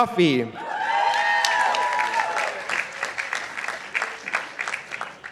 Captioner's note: participants applauding